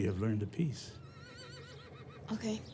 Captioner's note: horse whinnies distantly